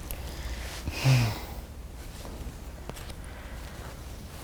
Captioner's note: sighs